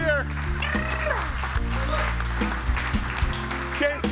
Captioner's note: audience applauding; blowing raspberries